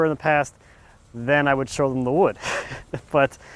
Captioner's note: laughs